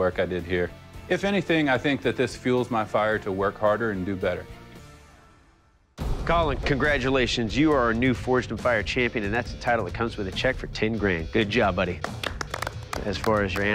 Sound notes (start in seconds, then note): 12.0 applause